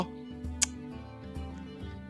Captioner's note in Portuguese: som de desgosto